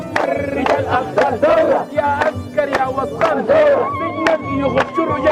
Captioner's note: chanting and applauding; chanting continues